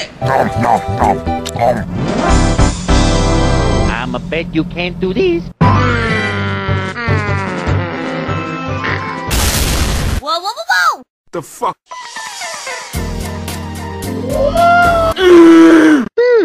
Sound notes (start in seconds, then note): 0.2 nom nom nom, nom; 9.2 crash; 9.3 boom